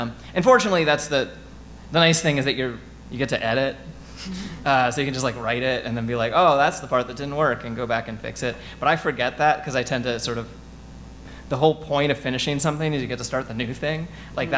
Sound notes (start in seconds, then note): none